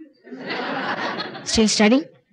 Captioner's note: laughter